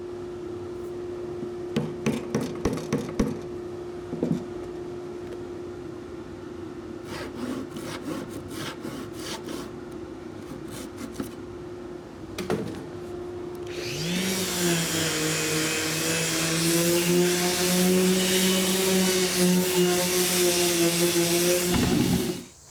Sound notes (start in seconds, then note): 0.6 dust collector humming; 0.6 tapping; 7.0 sawing; 13.6 power tool humming